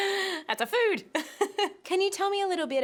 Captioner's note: laughing